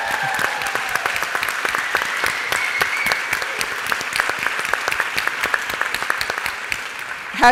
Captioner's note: applause and cheers from the audience members and panel